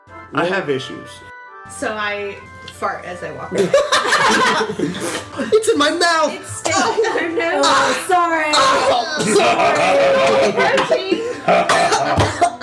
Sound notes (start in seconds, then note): 3.5 all laugh; 4.9 thppp; 11.6 Maklaw and Ping-Pong laughing